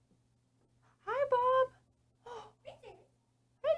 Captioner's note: gasp